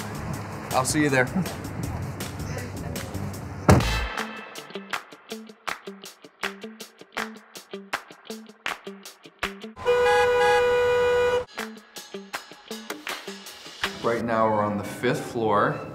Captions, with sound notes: I'll see ya there. [light music] [cars honking] [light music] Right now we're on the fifth floor